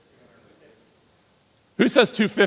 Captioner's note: audience member speaking off-mic